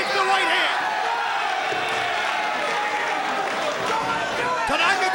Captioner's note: crowd chattering